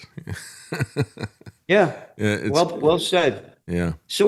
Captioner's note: laughs